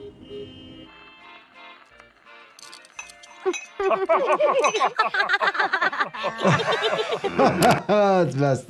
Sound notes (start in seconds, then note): 3.8 characters giggling; 6.8 laughing